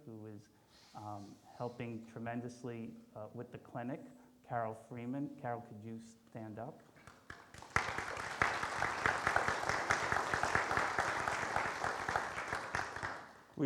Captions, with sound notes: who is helping tremendously with the clinic, Carol Freeman. Carol, could you stand up? (audience applauds)